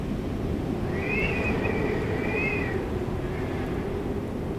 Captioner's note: whistling wind